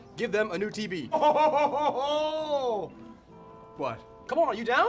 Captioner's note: laughing